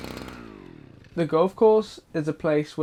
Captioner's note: strimmer idle; strimmer turned off